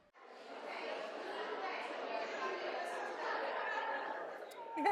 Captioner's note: chatter